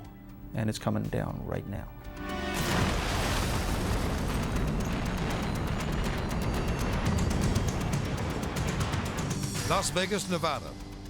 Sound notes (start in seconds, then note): 2.0 intense music; 2.5 explosion booming; 2.6 building crashing